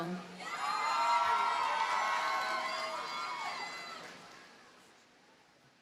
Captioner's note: audience cheers and applauds